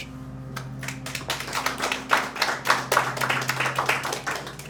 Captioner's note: applause